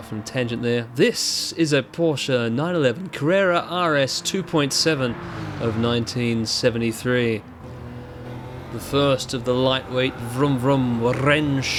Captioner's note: trilled